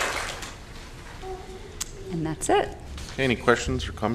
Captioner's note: applause